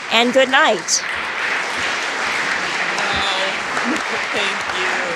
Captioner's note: audience applauding